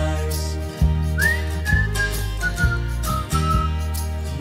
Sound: whistling

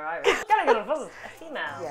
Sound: Irish accent

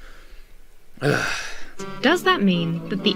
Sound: sighs

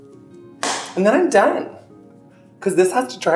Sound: clap

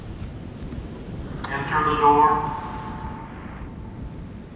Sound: intercom

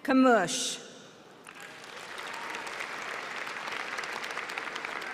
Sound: applause

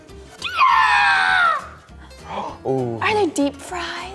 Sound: girl growls

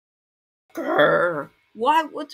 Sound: groan

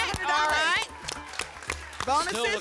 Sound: applause and cheering

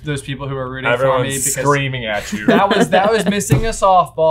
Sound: laughing

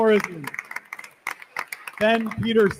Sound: attendees continue applauding

